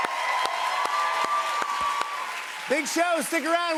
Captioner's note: cheers and applause